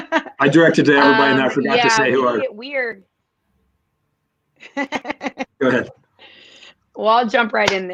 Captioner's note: laughter; laughter